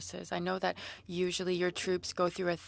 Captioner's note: speaking French